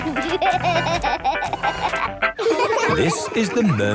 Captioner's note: upbeat music; giggling